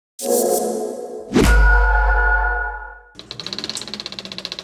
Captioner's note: low to high ping; projector reel roll